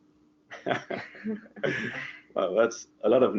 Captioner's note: laughs softly